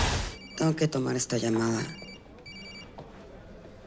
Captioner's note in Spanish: Suena celular